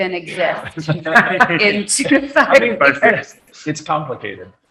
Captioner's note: all laughing